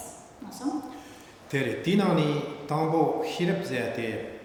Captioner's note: speaking tibetan